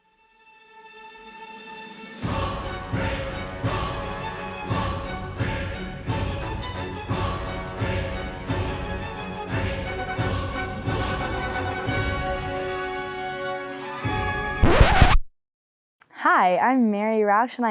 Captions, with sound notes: (dramatic instrumental music) (record scratches) - Hi, I'm Mary Roush